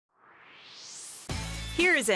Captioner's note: swoosh